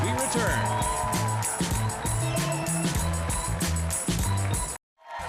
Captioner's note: audience cheering